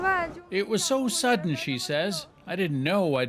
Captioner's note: speaking Foreign Language